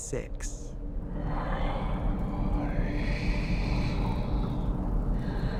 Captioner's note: sinister whispering